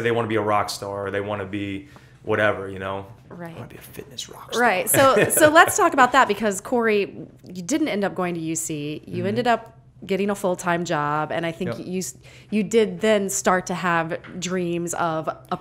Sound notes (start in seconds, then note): 4.8 laughter